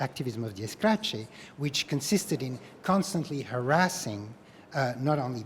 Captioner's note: spanish